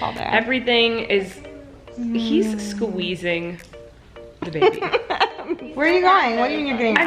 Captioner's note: laughing